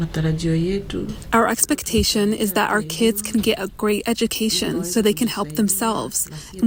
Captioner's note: through translator